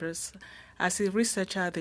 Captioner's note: speaking French